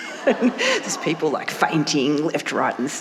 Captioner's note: audience muttering